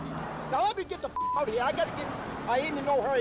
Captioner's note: beep